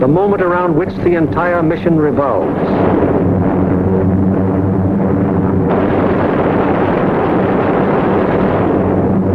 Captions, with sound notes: the moment around which the entire mission revolves. (gunfire sounding) (plane engines humming)